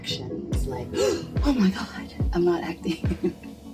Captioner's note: gasp; laughs